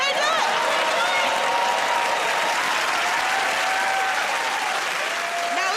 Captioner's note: cheering and applause